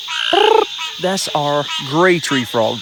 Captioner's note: Sheldon making frog call